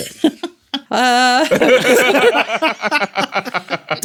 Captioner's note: laughter